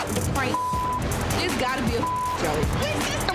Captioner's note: beep